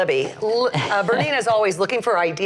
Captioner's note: laughs